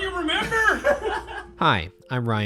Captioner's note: men laughing